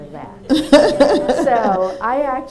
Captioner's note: laughter